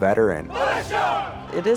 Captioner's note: chanting